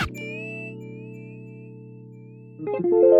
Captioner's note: none